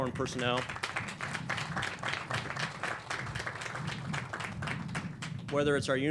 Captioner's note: clapping